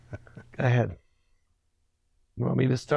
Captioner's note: laughs